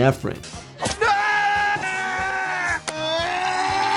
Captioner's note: screaming